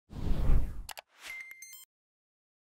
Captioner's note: air whooshing; beeping